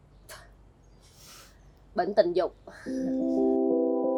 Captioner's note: laughs